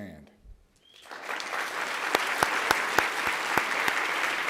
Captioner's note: applause